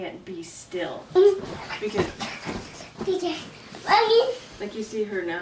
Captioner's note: murmurs